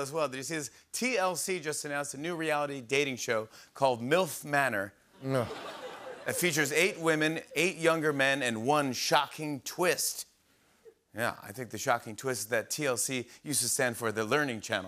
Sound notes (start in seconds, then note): 5.2 laughter